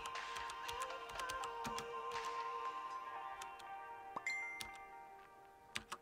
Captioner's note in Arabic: رسالة تصدر صوت تنبيه